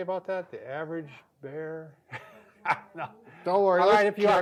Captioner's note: laughs